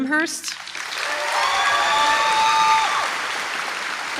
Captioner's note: applause